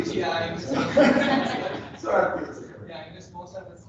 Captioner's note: laughter